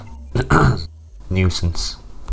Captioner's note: coughs